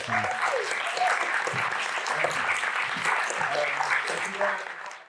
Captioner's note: applause